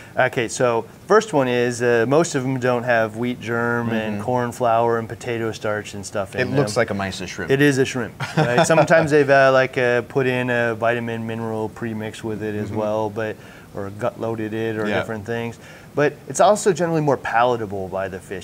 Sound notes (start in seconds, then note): 8.1 chuckles